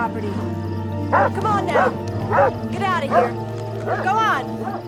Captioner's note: dog barks